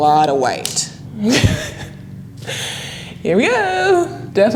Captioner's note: laughing